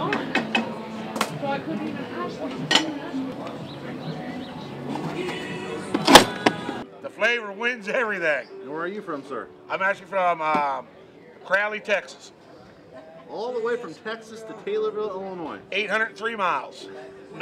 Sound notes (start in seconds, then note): 1.6 pot clanging sounds